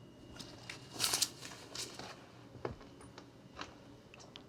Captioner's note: paper rustles